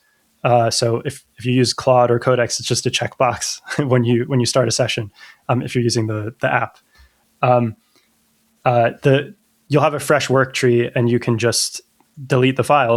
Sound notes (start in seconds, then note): 0.5 uh; 2.8 laughter; 7.4 uh